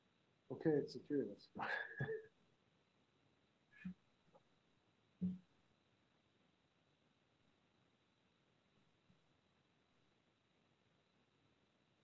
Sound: chuckles

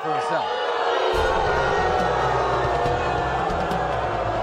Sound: audience boos

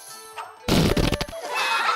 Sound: farting noise; laughing

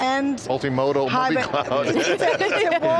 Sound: laughs

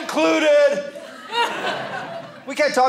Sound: audience laughing

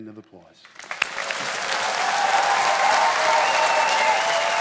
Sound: audience applauding

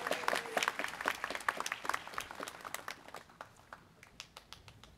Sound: students clapping

